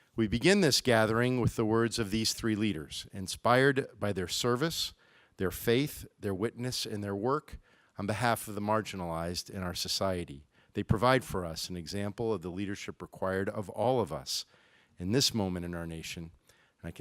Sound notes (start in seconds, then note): none